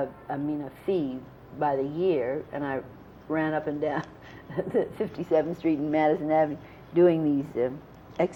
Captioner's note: laughs